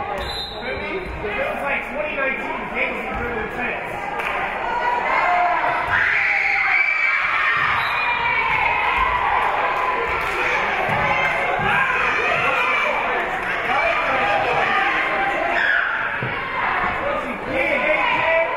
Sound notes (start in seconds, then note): 0.2 whistle being blown; 6.0 spectators cheering; 7.7 whistle being blown; 8.2 spectators cheering and applauding; 13.9 spectators shouting encouragements